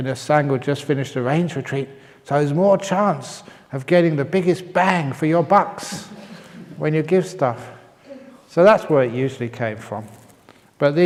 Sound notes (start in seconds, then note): 6.0 laughs